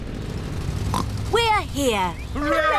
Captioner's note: oinks